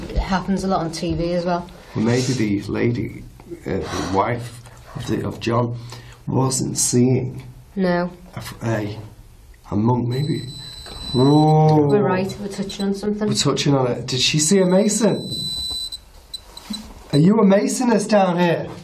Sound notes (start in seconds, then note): 10.1 tone beeping